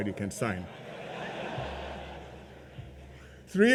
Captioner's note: laughter